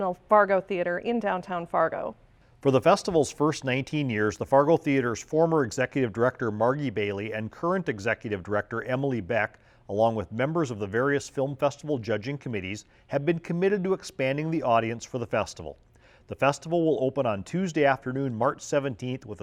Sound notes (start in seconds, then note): none